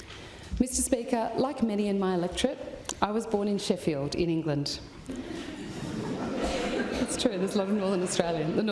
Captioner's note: laughter